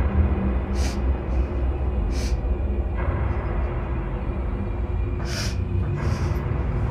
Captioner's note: tense music; Claire sobs